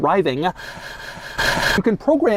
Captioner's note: Doug starts breathing way too loudly